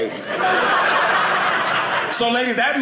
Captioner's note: audience laughing